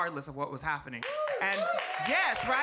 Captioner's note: audience cheering and clapping